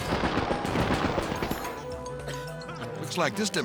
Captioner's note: fire whooshes